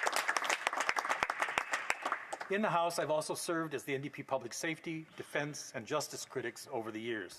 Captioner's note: applause